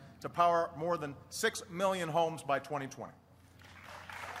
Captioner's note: applause